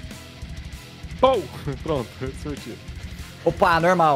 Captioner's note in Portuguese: pow